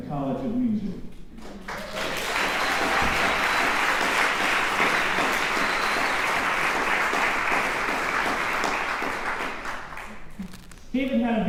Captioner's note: applause